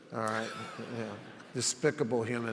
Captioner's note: audience laughs